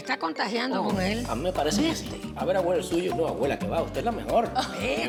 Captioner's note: speaks Spanish